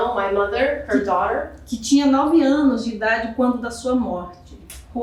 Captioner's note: speaking portuguese